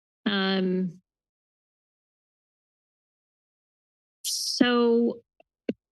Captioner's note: pause